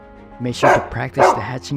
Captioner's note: dog barking